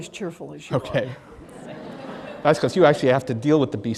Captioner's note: laughing